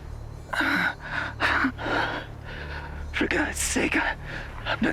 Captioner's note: panting; nervously grunting; says in a weak voice